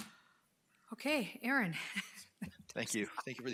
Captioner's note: chuckles